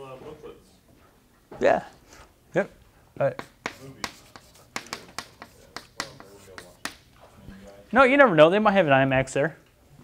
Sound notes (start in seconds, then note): 3.3 chalkboard writing